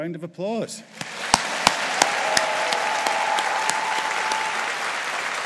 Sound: audience applauding

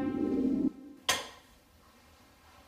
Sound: click

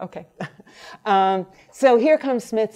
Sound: laughs

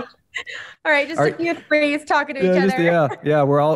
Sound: laughs

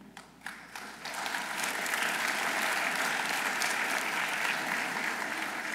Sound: audience applauding

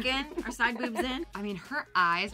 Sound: laughs

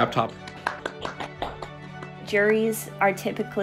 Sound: clapping

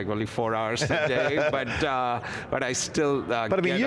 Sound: laughs

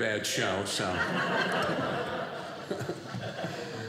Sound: audience laughing

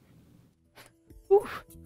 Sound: sniff

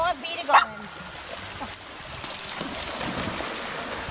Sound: bark

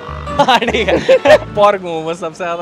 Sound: laughing

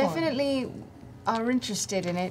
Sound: none

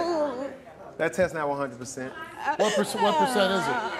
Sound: crying

